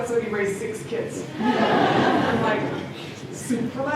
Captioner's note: laughter